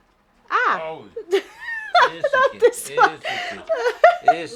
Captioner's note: laughs